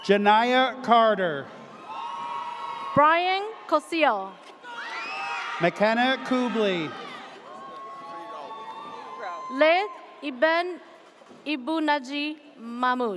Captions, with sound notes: - Janiah Carter. (audience cheers) - Brian Cosill. (audience cheers) - McKenna Kugley. (audience cheers) - Leth Eben Ebunagee Mamut.